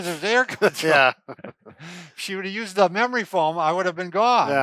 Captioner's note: chuckles